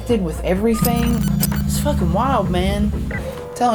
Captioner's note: electronic thrumming